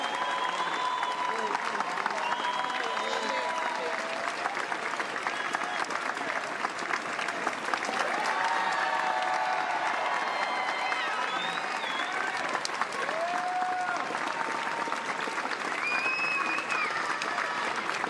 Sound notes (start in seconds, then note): 3.2 cheers and applause; 14.4 applause continues